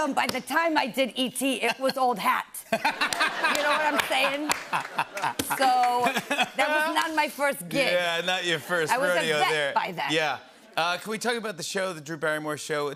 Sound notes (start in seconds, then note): 2.6 laughter; 7.7 normal voice